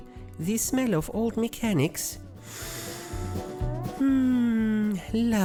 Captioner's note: sniiiief